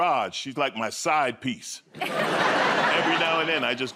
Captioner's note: laughter